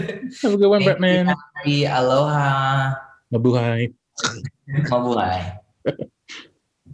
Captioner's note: Bretman and Raffy speaking in foreign language